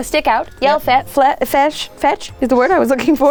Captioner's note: stuttering